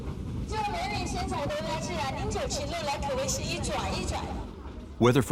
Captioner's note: speaking in foreign language